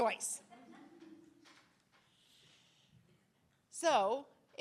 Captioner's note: attendees laughing